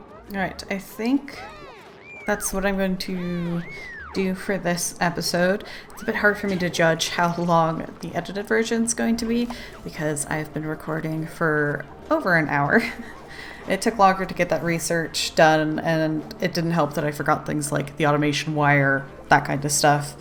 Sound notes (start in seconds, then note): 12.5 laughs